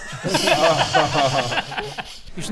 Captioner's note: laughing to hide the pain